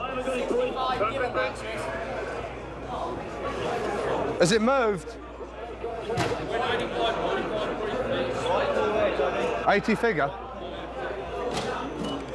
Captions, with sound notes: (broker yelling) Has it moved? (broker yelling) 80 figure.